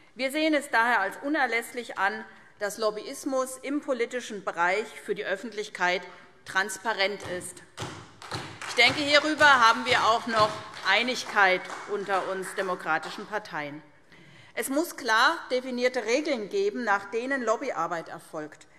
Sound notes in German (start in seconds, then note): 7.8 Beifall SPD